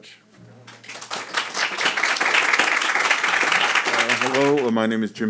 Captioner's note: audience applauding